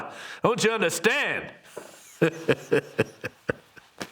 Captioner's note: laughs